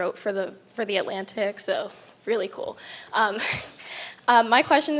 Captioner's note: chuckles